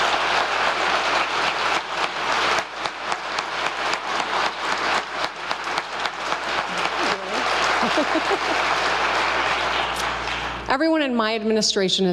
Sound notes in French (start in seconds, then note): 3.1 applause